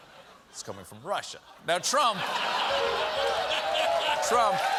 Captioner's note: cheers and applause